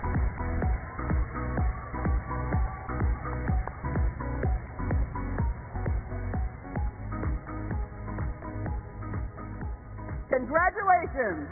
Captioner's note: cheers and applause